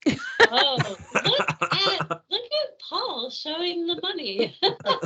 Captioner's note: everyone laughing